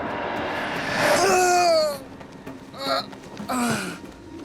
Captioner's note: grunting